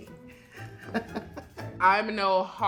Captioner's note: laughing